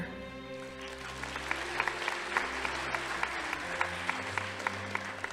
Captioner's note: audience applauding